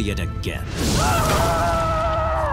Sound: screaming

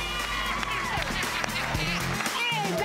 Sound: laughing

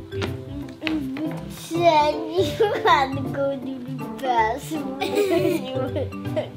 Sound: laughing

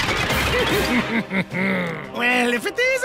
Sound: evil laughter

